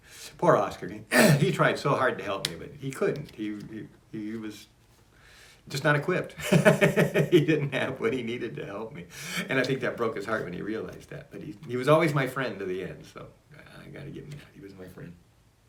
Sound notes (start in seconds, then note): 6.4 laughs